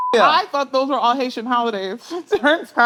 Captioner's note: laughs